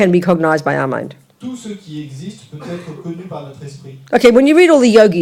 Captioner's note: French